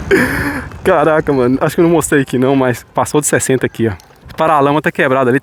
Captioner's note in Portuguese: suspirando; risadas